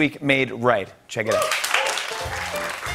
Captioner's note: cheering and applause